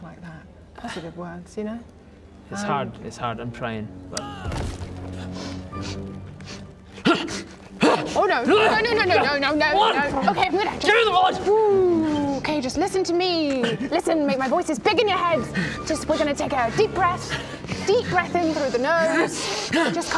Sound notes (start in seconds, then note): 4.4 thud; 5.1 ahh!; 6.3 sniff sniff